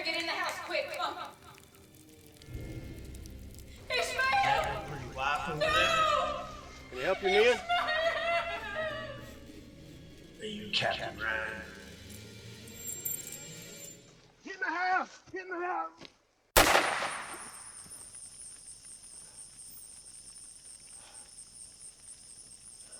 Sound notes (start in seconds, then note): 8.8 Abigail sobbing; 16.5 gun firing; 19.2 Ishmael breathing heavily